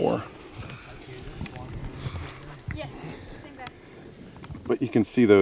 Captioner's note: faintly speaking